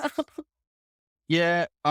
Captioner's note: laughing